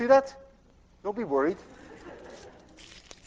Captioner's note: class laughs